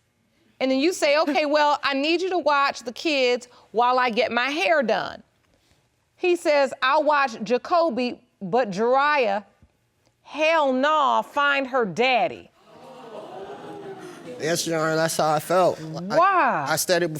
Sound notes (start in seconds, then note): 10.9 audience gasps